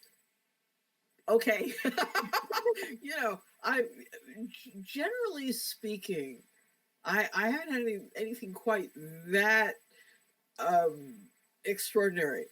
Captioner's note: laughs